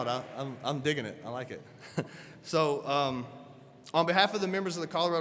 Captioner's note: chuckles